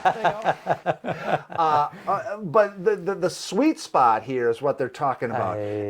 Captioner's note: laughing